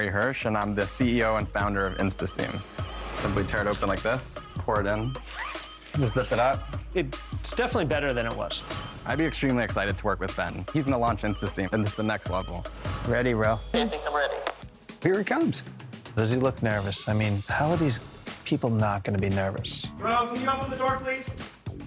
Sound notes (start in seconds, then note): 0.2 calm upbeat music; 5.2 zipper zipping; 13.6 air whooshes